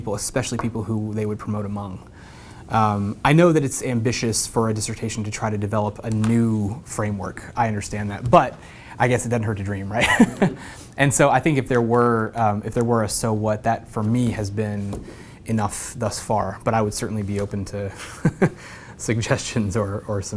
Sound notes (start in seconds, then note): 10.0 laugh